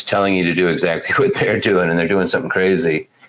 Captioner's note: laughs